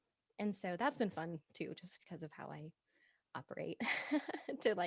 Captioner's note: both laughing